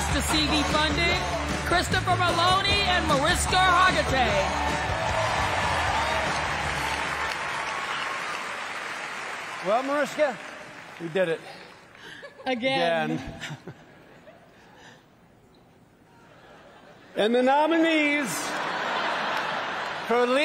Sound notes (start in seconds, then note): 4.2 applause